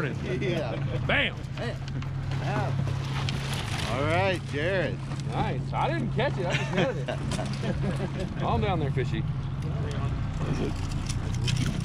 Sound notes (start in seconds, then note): 2.0 chuckling; 5.6 fish splashing; 9.4 chuckling